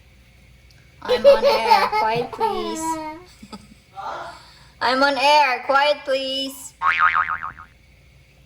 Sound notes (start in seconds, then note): 1.1 baby laughter; 3.3 me laughing; 4.7 me with louder voice; 6.8 boing